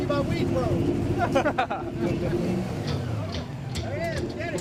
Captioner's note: laughing